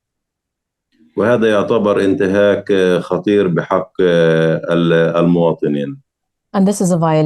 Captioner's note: speaking arabic